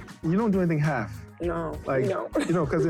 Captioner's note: laughing